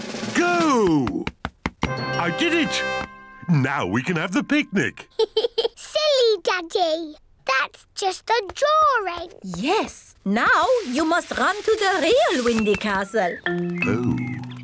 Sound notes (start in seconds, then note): 5.0 giggles